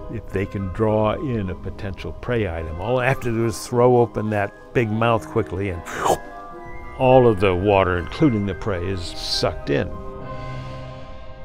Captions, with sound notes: If they can draw in a potential prey item, all they have to do is throw open that big mouth quickly and (makes slurping sound) all of the water, including the prey, is sucked in.